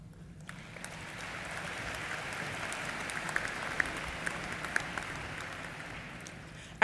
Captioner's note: applause